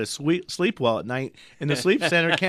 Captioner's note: laughs